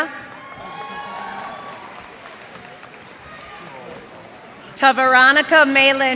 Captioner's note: cheers and applause